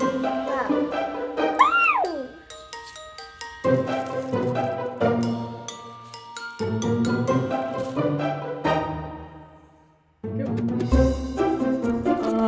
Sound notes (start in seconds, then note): 1.8 squeals